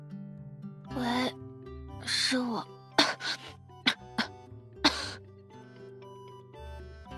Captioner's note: cough cough